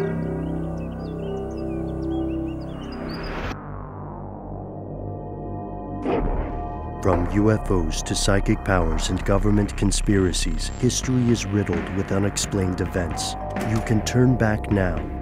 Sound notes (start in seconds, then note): 0.1 creepy music; 8.1 voiceover